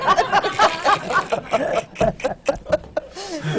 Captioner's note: laughter